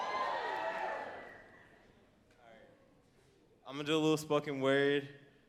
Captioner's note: audience cheering